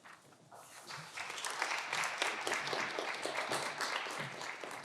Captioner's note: audience clapping